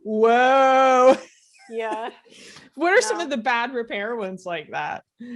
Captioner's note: laughs